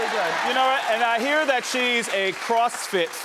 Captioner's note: audience cheers